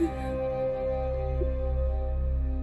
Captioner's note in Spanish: Sollozos